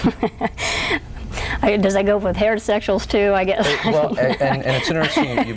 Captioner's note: laughs; laughs